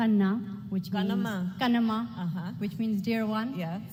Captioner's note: speaking foreign language